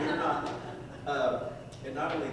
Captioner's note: audience chuckles